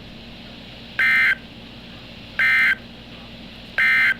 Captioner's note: EOM Tones